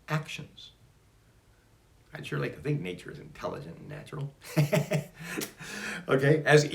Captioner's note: laughs